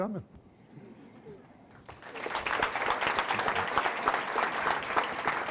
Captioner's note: applause